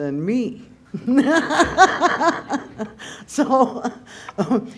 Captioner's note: laughter